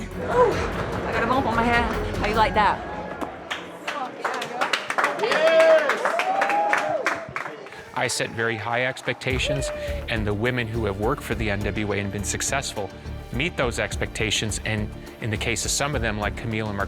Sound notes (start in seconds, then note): 3.6 people clapping